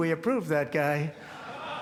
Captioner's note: laughter